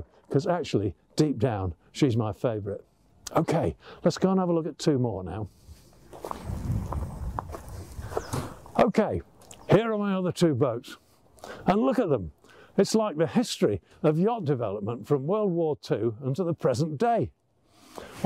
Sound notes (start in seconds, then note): 7.3 feet stomping